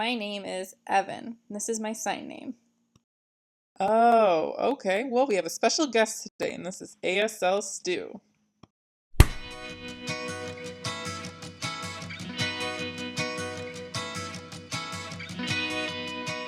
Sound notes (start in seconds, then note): 9.1 hand slap